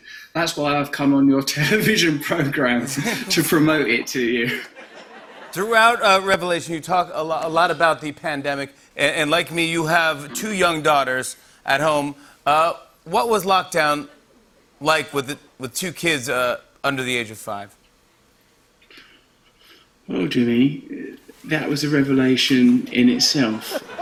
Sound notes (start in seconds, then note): 0.2 chuckling; 4.4 laughter